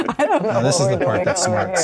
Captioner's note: laughter